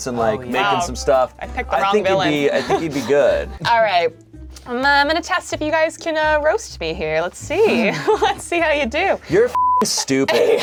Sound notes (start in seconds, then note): 9.5 beep; 9.8 chuckles